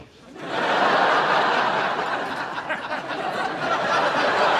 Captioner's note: audience laughs